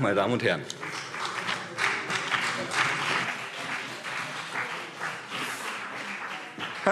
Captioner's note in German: Beifall BÜNDNIS 90/DIE GRÜNEN und CDU